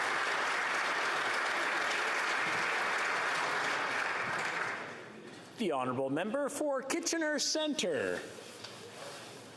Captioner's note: applause